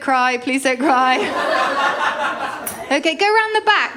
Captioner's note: laughter